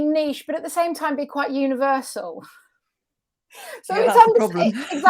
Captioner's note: chuckles